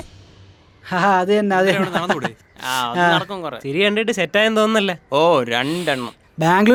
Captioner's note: Distant chatter- Mocking Sarath